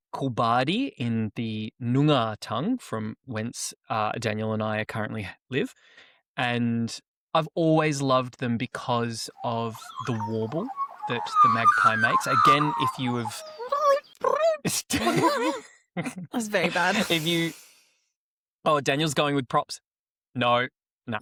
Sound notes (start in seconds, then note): 9.3 magpie warbles; 14.7 makes magpie sounds; 14.7 laughter